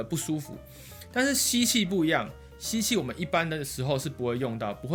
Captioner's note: inhaling